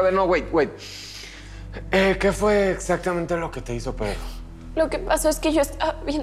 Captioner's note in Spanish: Inhala